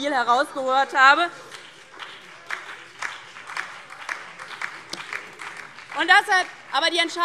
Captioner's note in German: Beifall DIE LINKE und BÜNDNIS 90/DIE GRÜNEN